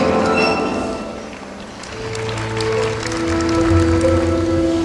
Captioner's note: applause